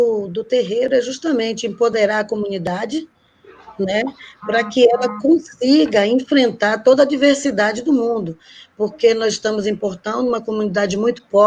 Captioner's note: speaking Portuguese